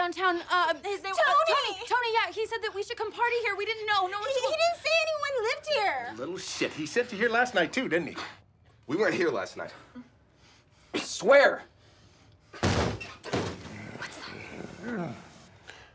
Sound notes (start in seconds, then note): 12.5 door slams